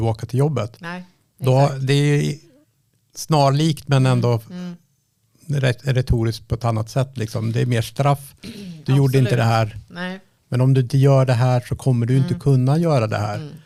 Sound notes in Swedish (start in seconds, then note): 8.4 harklar sig